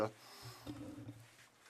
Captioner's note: speaking French